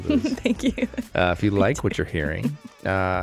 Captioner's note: laughs